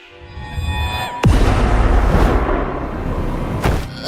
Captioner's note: dramatic music; crash; thud